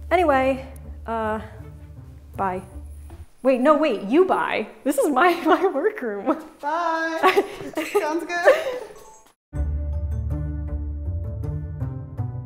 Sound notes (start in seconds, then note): 6.0 laughing; 9.5 whimsical music